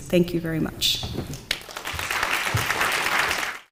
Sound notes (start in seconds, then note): 1.3 audience clapping